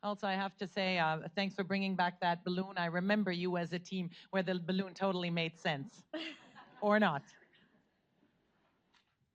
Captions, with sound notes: Also, I have to say thanks for bringing back that balloon, I remember you as a team where the balloon totally made sense. (audience laughs) Or not.